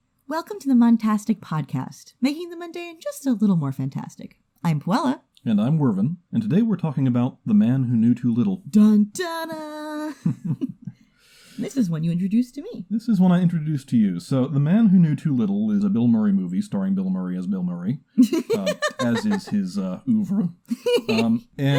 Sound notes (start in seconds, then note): 10.2 both chuckle; 18.2 laughs